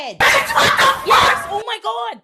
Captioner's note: screaming